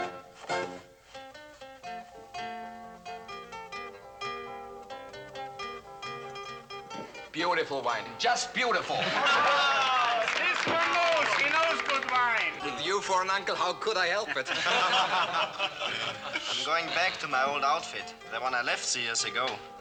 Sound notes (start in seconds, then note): 9.0 cheering; 13.4 laughing